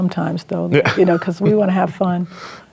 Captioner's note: chuckles